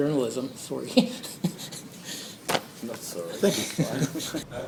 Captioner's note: laughs